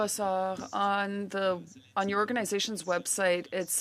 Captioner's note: speaking French